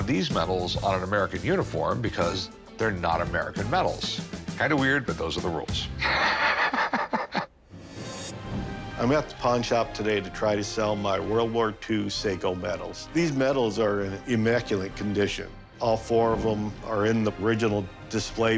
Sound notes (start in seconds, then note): 6.0 laughs